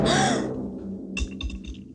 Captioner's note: gasping; ominous music